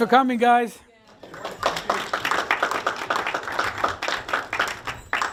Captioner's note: applause